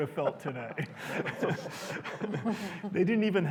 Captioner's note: laughter